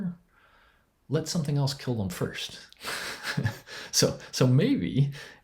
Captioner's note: chuckles